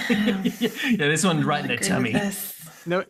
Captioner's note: laughs